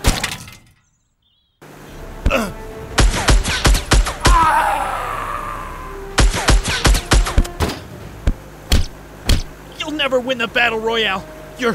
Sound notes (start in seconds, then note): 0.2 metals clanking; 3.2 gun shots firing